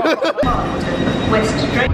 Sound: laughing

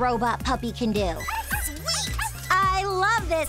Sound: robot Puppy barking

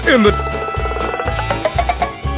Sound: none

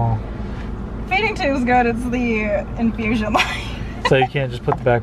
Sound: laughs

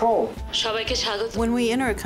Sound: speaking foreign language

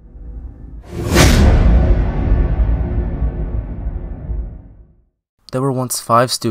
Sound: cinematic impact sound effect

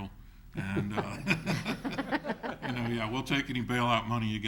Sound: all laugh

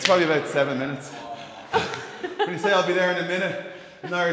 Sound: laugh

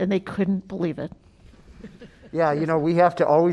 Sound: laughter

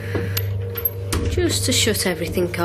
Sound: door shuts

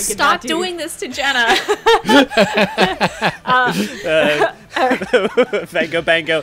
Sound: laughter

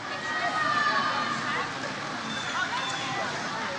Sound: audience cheers

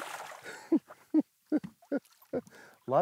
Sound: chuckling

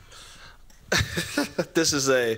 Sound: chuckles

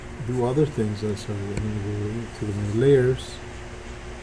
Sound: voice muffled

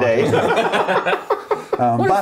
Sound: laughing

